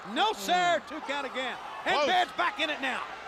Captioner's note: crowd chatter